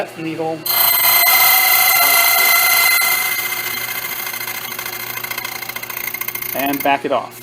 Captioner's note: metallic grinding noise